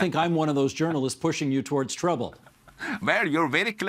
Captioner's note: laughter